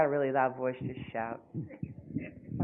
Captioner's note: laughing